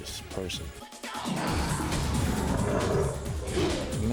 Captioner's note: roaring